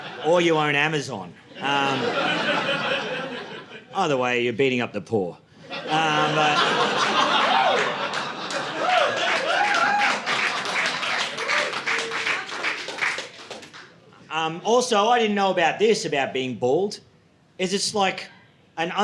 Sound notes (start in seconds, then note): 6.7 audience laughing; 9.0 audience applauding